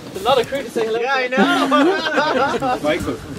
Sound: laughter

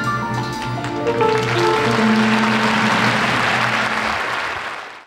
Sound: audience applauding

